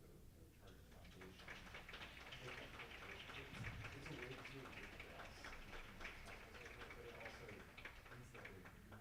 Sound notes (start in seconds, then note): 0.6 applauding drowns out speaking